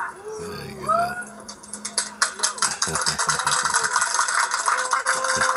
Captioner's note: clapping and cheering